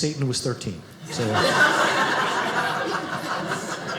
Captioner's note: audience laughing